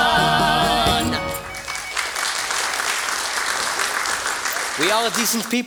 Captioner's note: music out. Applause